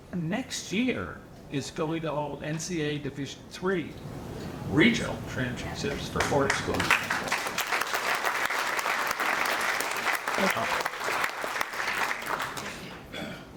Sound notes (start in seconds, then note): 5.9 audience applauding